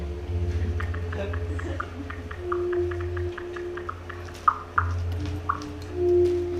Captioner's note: phone keys typing